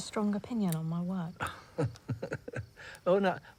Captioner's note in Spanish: Oscar se ríe